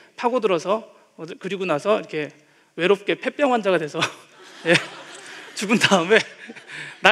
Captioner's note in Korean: 웃음